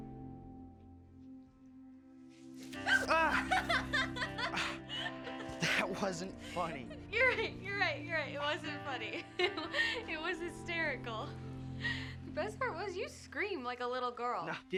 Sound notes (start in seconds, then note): 2.7 Grace laughing